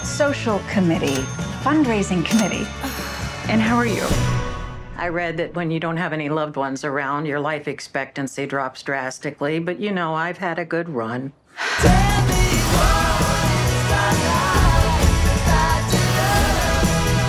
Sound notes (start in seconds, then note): 2.2 bell pings; 11.7 upbeat music; 11.9 woman sighs